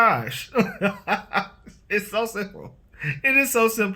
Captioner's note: laughs